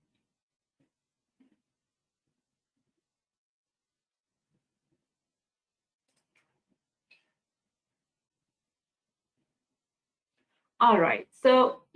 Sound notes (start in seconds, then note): 0.8 10 seconds pause